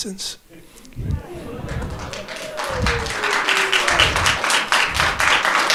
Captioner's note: audience chattering and applauding